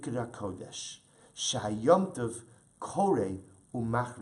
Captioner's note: Hebrew